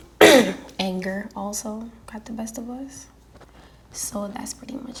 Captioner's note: clears throat